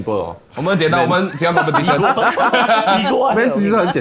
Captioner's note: laughs